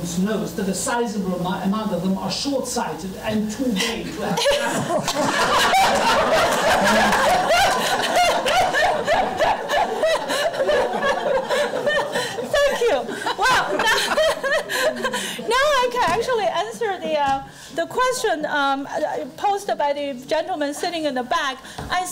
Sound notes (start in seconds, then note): 3.4 loud laughing; 14.1 laughing